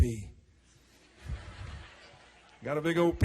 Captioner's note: audience laughing